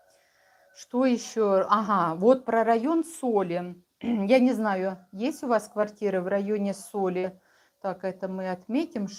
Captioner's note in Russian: откашливается